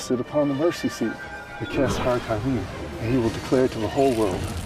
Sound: speaking foreign language

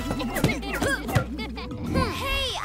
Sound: Primadonna giggles

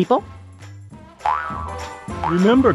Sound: Shakey boings

